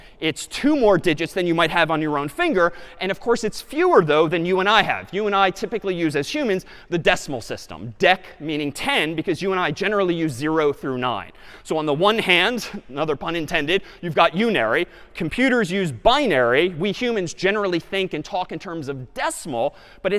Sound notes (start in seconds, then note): none